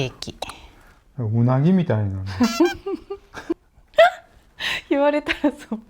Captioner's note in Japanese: 笑い